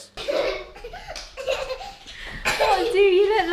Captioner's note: laughing